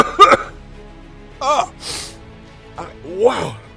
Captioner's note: coughs